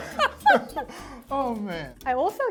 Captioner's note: laughs